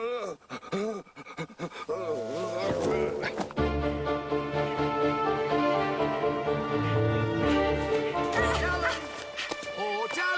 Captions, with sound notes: (dramatic music) (grunting) Dalen, oh Dalen?